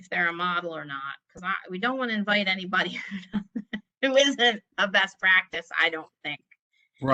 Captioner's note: laughter